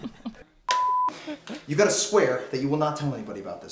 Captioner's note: group laughs